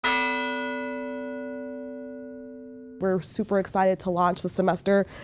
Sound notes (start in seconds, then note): 0.0 bell ringing